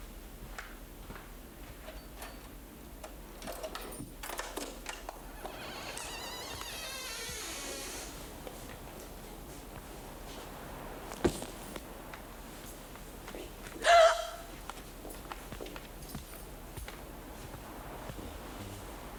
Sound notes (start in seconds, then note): 4.3 door creaking; 13.8 Cathy gasping